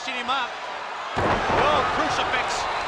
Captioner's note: wrestlers thud